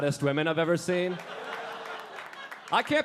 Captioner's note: audience laughing